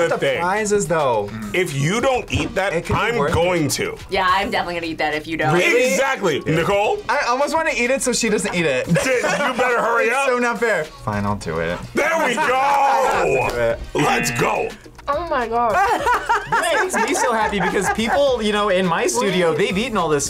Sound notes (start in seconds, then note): 14.7 buzzer; 15.6 laughs